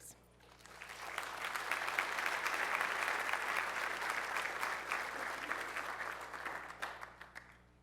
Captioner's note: applause